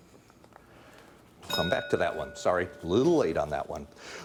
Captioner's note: bell dinging